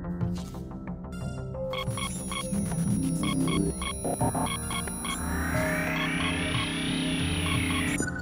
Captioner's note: scanning system operating